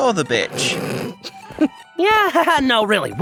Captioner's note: stifling laughter